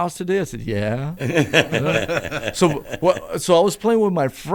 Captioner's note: laughter